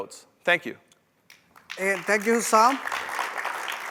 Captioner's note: applause